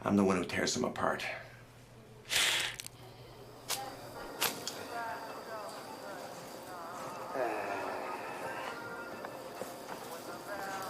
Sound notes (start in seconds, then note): 2.2 winces; 2.4 crunch